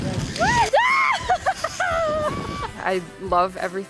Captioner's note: women whoops